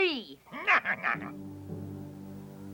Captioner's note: dwarf chuckles